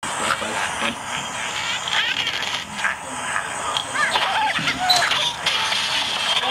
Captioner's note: Angry Brids sound effect